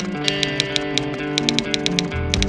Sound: typewriter

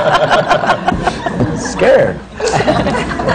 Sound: laughter

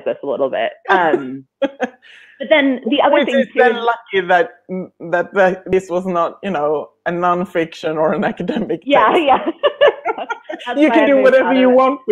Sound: laughing

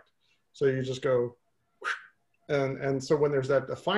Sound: whoosh

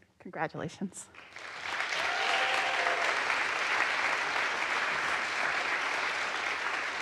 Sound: audience applauds; audience cheers

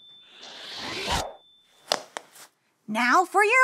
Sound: picture wooshes

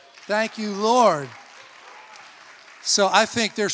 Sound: congregation applauds

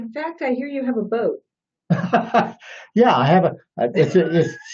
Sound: laughs

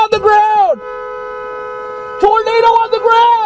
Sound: me, honking my horn

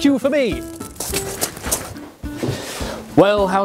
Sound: footsteps crunching

